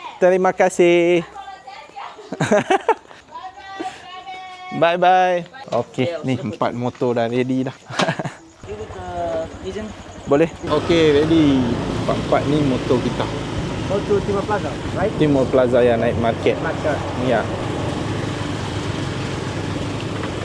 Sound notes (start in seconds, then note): 2.1 laugh